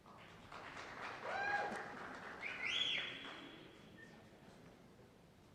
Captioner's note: cheers and applause